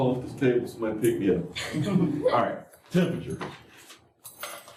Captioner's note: laughter